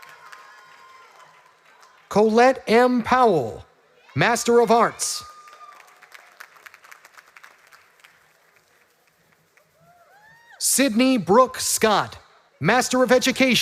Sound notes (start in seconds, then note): 1.3 graduates walking